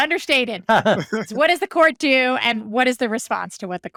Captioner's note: laughing